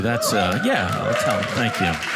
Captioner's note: audience cheering